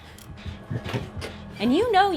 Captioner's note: sound of a heavy heartbeat